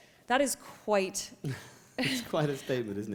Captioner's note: chuckle